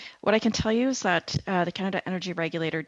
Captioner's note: speaking French